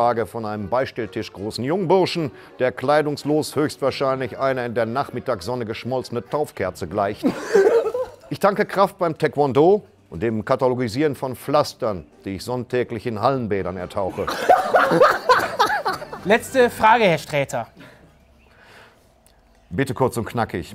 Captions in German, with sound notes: von einem beistelltischgroßen Jungburschen, der kleidungslos höchstwahrscheinlich einer in der Nachmittagssonne geschmolzenen Taufkerze gleicht. (Lachen) Ich tanke Kraft beim Taekwondo und dem Katalogisieren von Pflastern, die ich sonntäglich in Hallenbädern ertauche. (Lautes Lachen) Letzte Frage, Herr Sträter. Bitte kurz und knackig.